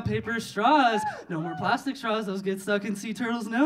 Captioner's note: audience cheering